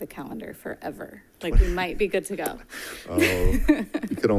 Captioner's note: chuckles